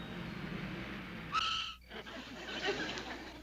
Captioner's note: car tires squeal